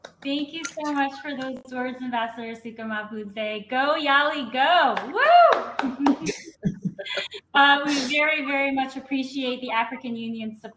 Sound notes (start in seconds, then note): 5.8 laughter